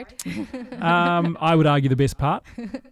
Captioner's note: laughing